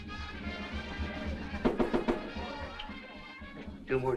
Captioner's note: knocking on the counter